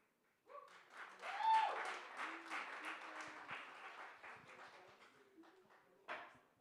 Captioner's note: applause, cheering